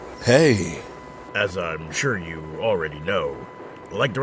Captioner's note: with a tinge of playful sarcasm